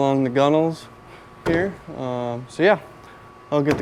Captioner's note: hand tapping